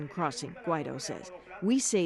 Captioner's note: speaking spanish